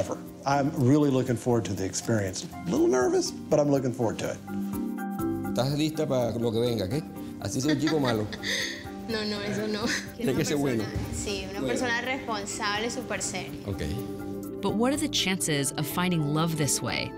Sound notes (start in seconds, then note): 7.5 laughs